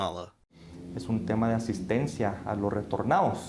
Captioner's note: speaking Spanish